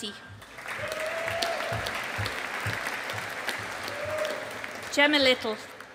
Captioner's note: audience applauding